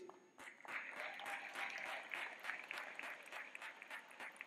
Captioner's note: clapping